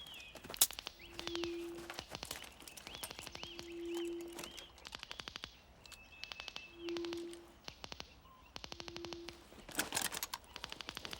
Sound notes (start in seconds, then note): 0.0 branches cracking